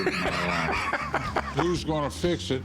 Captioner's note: laughs